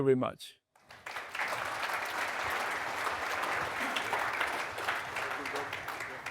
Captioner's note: audience applauding